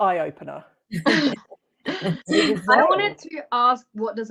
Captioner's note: laughter